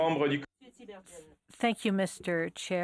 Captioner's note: speaking French